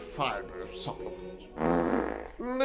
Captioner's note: fart